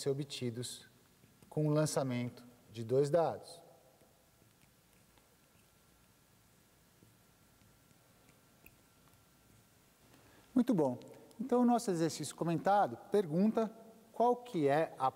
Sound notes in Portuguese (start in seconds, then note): 4.5 silêncio